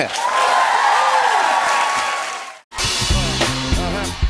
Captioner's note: cheers and applause